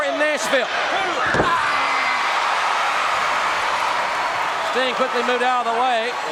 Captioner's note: audience cheering